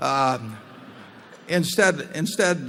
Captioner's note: laughter